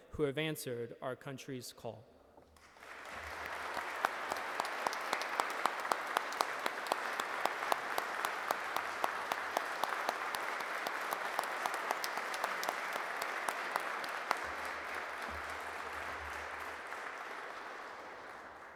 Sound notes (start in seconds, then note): 3.1 audience clapping